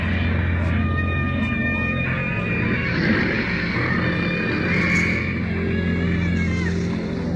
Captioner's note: screaming